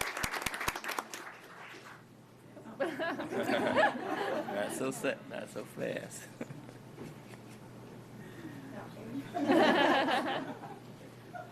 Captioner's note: applause